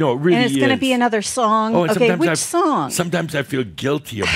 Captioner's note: she sighs